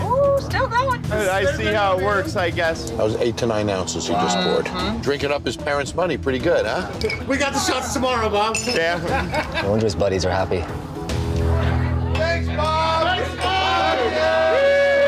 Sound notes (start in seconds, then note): 11.6 cheering; 12.5 crowd